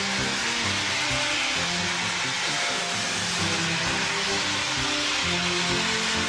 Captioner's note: train releases steam